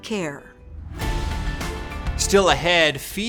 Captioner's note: air whooshing